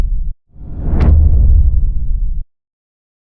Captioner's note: powerful whoosh sound